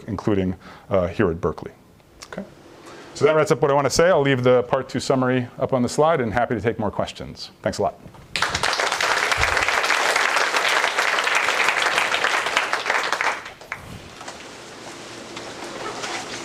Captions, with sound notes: including here at Berkeley. Okay? So that wraps up what I wanna say. I'll leave the part two summary up on the slide, and happy to take more questions. Thanks a lot. (applause) Okay.